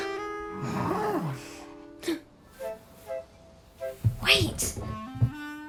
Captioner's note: fox growls; soft music; fox grunts